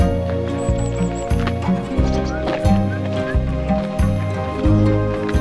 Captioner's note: nature sounds